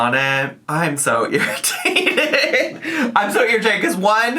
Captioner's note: laughs